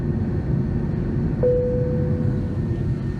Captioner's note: ding!